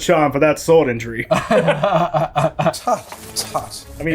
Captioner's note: laughing